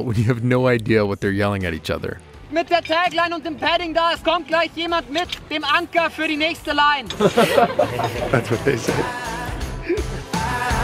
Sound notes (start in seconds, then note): 2.6 yelling in foreign language; 7.0 laughing